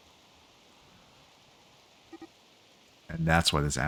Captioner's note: silence